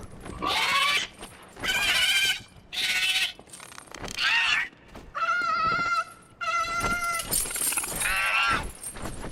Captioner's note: dragon crying